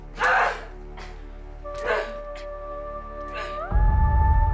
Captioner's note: Jordyn grunting; singer vocalizing